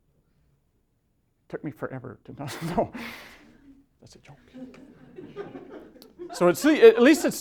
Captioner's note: whispering